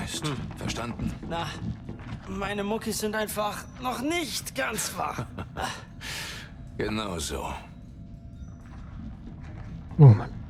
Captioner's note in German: gelächter